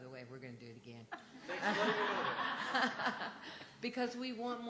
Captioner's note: laughter